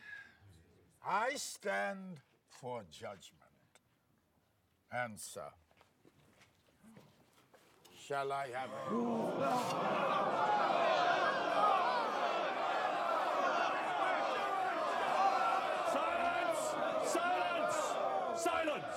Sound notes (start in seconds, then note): 8.9 crowd gasps; 11.0 crowd clamoring